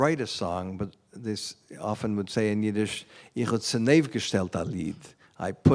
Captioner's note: non-english speech